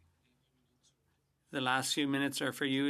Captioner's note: speaking French